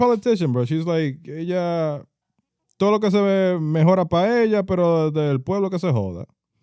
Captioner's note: speaking In Foreign Language